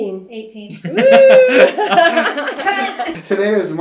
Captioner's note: all laughing